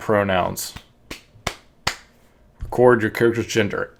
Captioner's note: claps